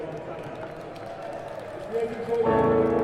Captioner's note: applause